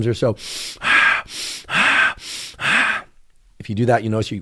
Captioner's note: breathing